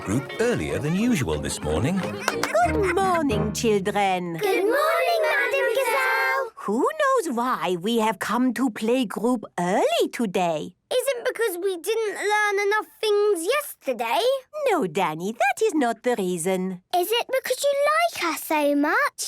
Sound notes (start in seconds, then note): 2.0 claps